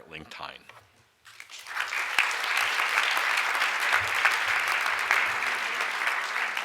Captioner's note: audience applauds